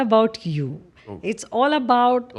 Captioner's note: laughs